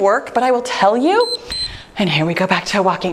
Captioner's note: timer beeps